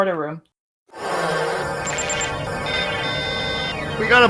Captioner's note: transporter fluctuating